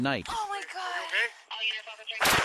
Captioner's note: gun shots